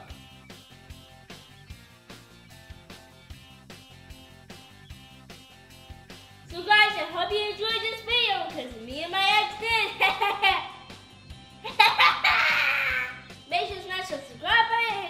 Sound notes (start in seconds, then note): 0.2 upbeat music; 9.7 laughing